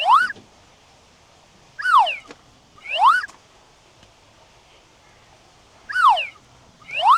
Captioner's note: squeaking